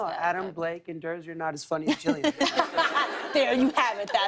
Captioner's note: laughter